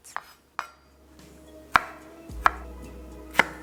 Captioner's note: sound of strawberries being chopped